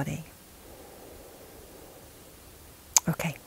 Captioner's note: inhaling